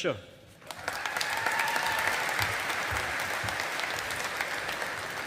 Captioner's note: audience applauding